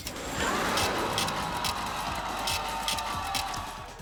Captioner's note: scratching